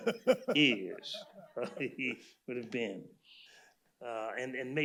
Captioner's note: laughter